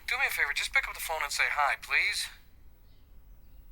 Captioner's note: none